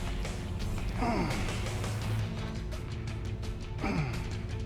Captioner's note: upbeat music continues; Sheamus grunts